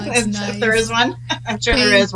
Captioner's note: laughs